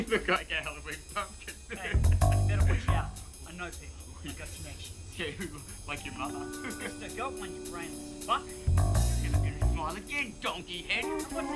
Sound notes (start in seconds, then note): 6.3 chuckles